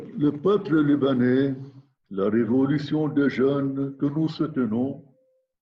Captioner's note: speaking in foreign language